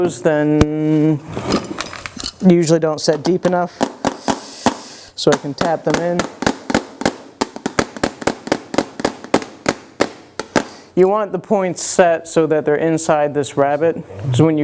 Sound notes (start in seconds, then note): 7.6 tapping sound